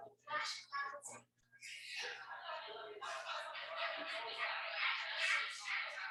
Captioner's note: people chattering indistinctly